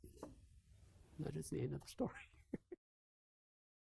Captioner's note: chuckles